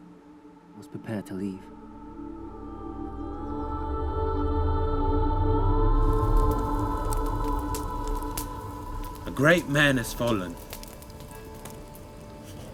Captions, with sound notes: we must prepare to leave. (gentle music) (fire crackling) - A great man has fallen.